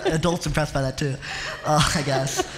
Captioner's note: laughter